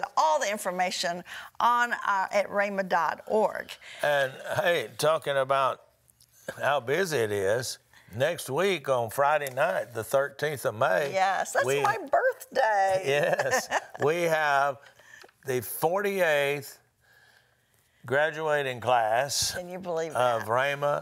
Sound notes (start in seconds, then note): 13.0 laughs; 16.0 giggles